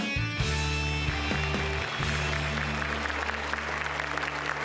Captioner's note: applause